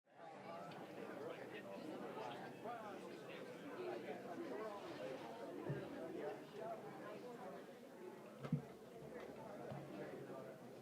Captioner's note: general chatter